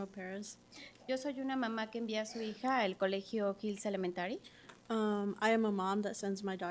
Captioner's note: speaking Spanish